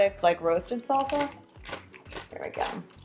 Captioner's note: chip crunches